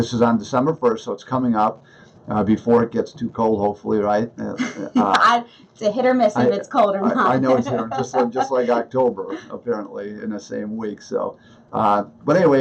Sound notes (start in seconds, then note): 6.8 laughs